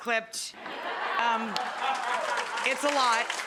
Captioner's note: audience laughing